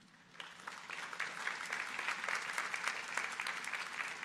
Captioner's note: audience applauding